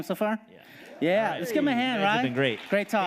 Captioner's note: audience affirming